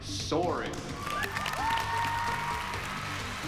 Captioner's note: cheering and applause